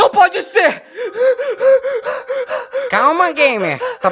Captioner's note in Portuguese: Sons de mico-leão hiperventilando